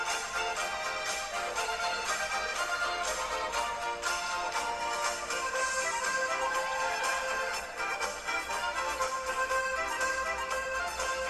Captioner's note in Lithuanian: Plojimai